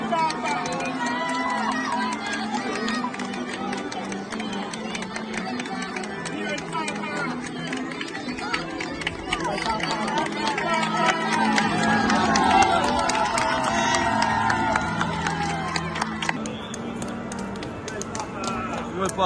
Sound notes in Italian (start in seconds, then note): 6.7 Applauso